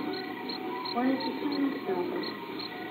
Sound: voices on drive-in speaker

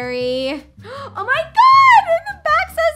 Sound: gasps

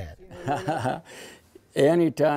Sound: chuckles

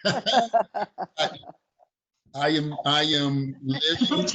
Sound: chuckling

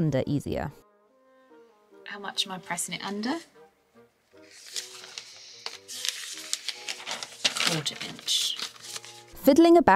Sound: paper rustles

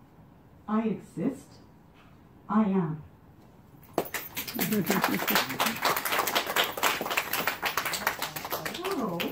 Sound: applause

